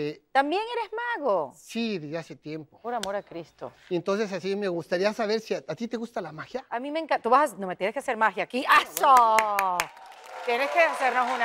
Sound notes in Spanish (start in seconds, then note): 8.8 Aplaude; 9.0 Ovación